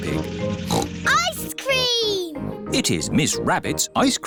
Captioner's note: snorts